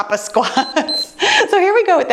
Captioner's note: timer beeps